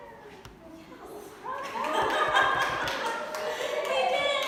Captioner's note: laughing